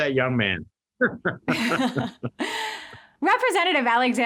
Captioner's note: both laugh